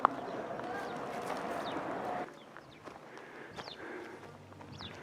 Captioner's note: birds chirping; gravel crunching; gentle music; birds chirping